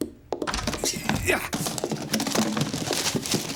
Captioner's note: grunting